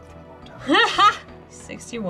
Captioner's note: laughs